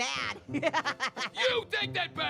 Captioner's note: Annoying Orange laughs